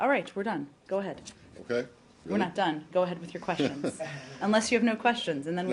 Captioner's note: laughter